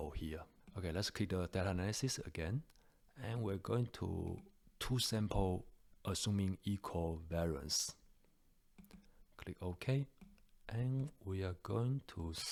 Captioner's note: click